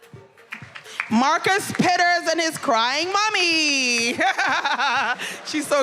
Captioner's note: laughs